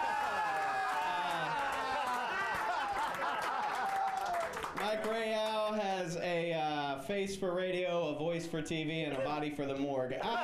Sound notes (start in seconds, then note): 3.7 audience cheering